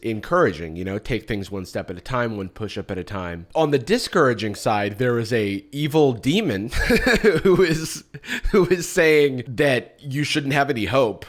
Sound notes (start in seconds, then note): 6.7 chuckles